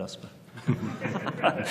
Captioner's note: laughter